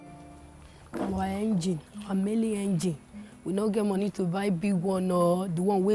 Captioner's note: speaking in foreign language